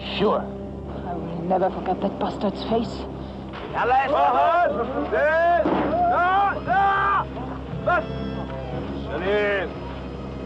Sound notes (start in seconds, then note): 2.9 shouting in Arabic; 5.6 thud